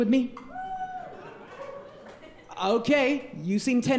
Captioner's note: audience weakly cheering